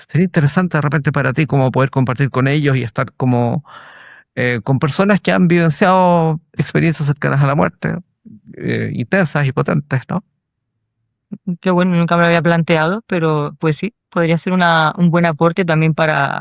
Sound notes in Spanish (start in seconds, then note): 8.2 carraspeo